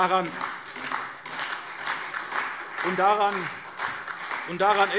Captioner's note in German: Beifall SPD